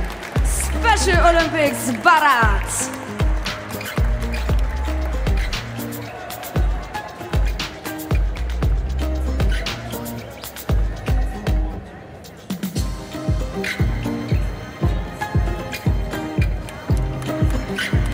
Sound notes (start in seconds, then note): 3.9 applause; 3.9 ♫ Midtempo guitar music ♫